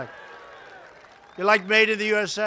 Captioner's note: applause